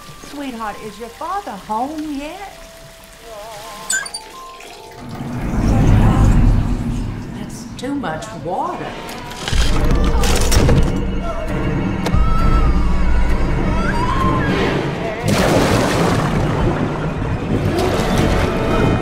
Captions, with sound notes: Sweetheart, is your father home yet? That's too much water. [yelling]